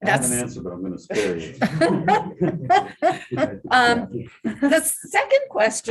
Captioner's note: laughter